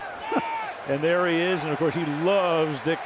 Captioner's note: laughs